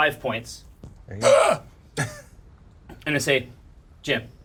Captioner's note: gasps